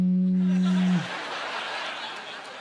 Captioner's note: imitating phone vibrating; laughing